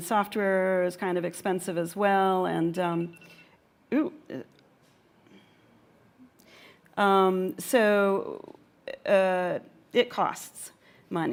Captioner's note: mobile phone buzzes